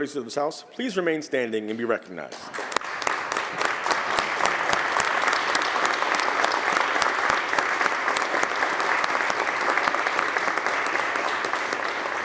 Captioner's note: applause